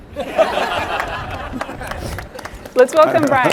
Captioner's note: all laughing